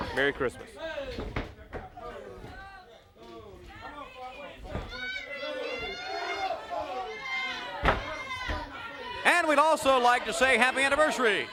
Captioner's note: crowd chatter